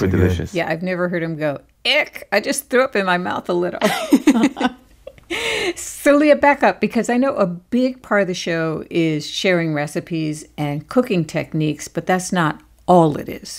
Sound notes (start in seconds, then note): 3.8 laughter